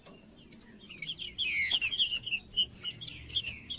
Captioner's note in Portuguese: trinca ferro cantando